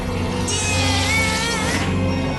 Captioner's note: groan